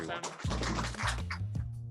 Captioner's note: applause